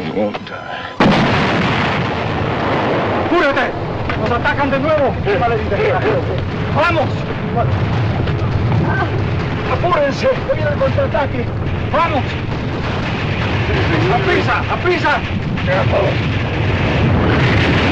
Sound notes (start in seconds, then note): 2.9 explosion; 8.8 moaning